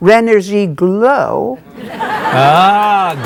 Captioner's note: audience laughing